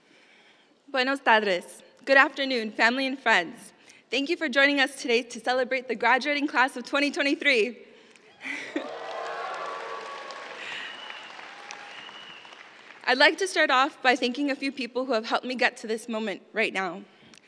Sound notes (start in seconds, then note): 8.4 cheers